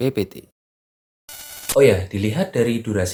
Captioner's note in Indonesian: suara interferensi